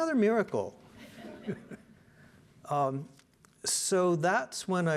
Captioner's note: audience laughing